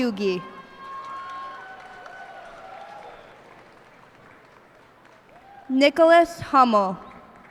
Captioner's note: cheers and applause